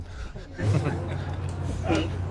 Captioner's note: Pete chuckling